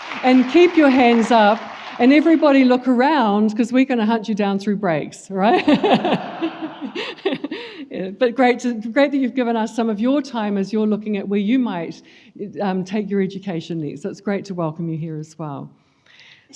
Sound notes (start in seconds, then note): 5.5 laughs